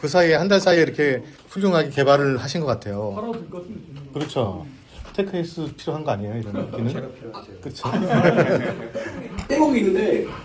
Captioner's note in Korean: 웃음